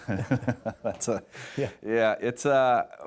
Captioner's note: laughs